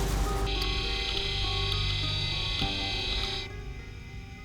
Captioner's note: machine whirring